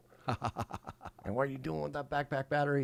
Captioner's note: laughing